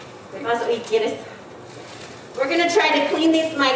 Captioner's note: speaking in foreign language